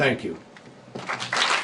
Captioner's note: applause